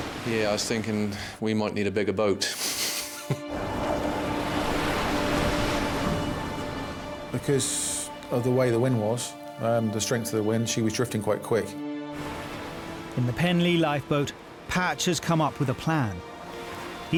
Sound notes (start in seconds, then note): 2.4 chuckles; 5.2 tense music; 5.2 waves lapping